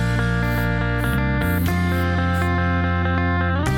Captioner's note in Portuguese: barulhos de spray